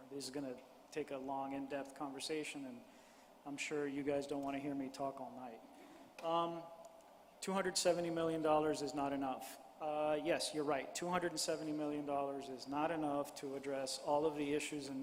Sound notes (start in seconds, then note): none